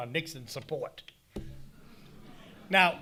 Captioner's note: audience laughing